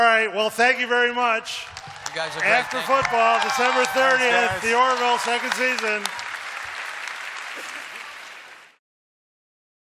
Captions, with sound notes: Well thank you very much. [applause] - You guys were great. Thank you. - After football, December 30th. Thanks guys. The Orville second season. [applause]